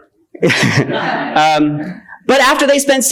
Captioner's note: attendees laughing